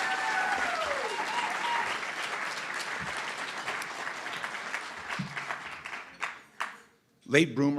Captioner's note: cheering & Applause